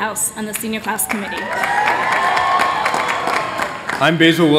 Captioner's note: cheers